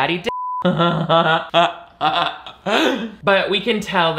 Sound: laughs

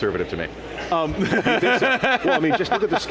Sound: laughs

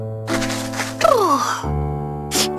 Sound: exhaling

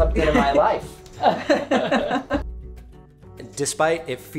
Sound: laughing

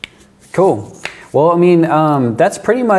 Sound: cracking knuckles

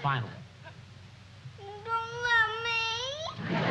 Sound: crying

